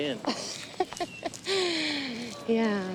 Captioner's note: Rebecca laughs